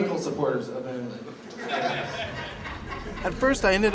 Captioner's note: laughter